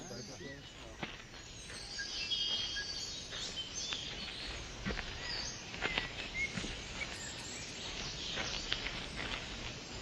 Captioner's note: jungle noises